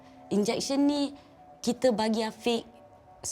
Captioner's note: in Bahasa Melayu